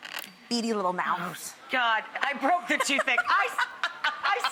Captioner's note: laughing